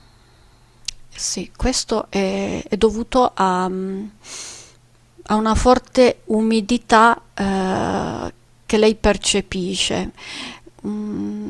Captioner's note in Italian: sbuffare